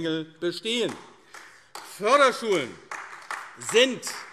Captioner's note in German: Beifall AfD